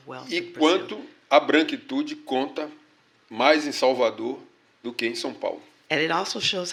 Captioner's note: speaking portuguese